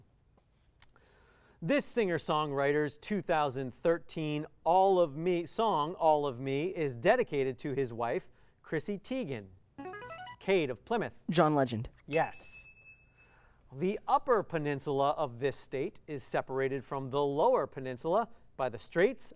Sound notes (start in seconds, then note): 8.2 musical scale; 12.1 ding